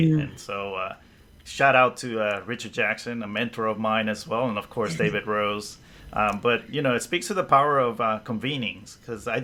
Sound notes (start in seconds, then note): 4.8 laughs